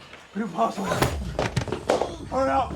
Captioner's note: Liz thudding